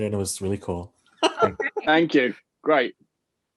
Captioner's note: laughing